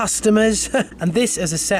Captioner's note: laughs